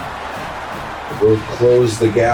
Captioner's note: crowd Noises